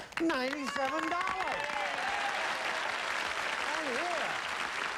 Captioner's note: applause